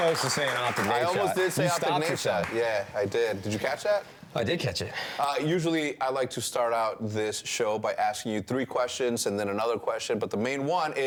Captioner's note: appuse